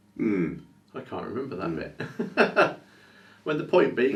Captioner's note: chuckles